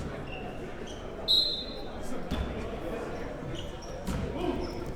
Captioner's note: whistle blows